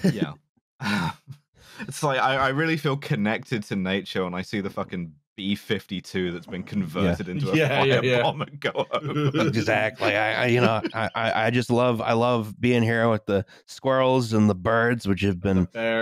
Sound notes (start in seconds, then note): 6.4 laughing; 9.0 chuckles